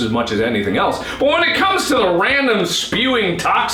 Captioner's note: increasing voice